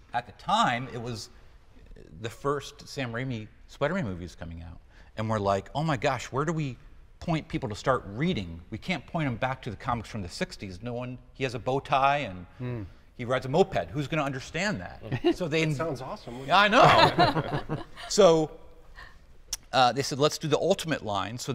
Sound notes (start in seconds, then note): 16.5 group laughing